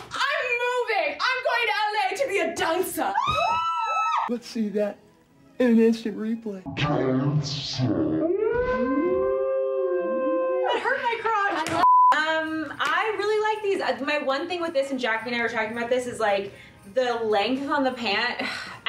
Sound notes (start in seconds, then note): 3.1 girls screaming; 11.8 screen beep